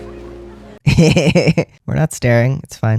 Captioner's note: laugh